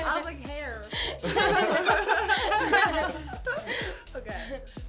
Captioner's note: laughter